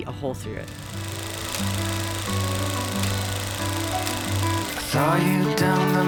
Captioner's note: film reel clicking